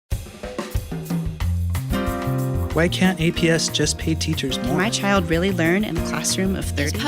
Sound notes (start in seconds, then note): 0.1 jazz music; 2.8 male Voice